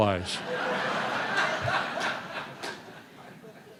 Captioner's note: laughter